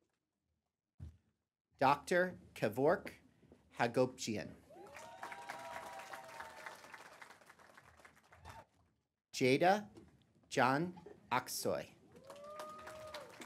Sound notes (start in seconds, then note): 0.0 applause; 12.1 applause